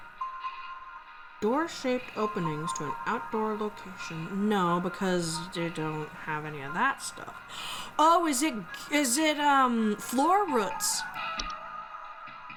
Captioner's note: gasp